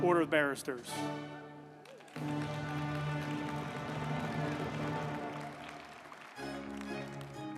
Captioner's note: uplifting music; group applauding